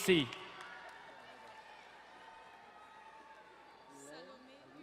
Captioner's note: distant cheering